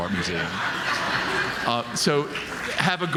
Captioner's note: audience laughing